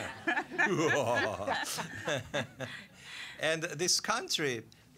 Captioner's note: audience laughing; over-exaggerated laughing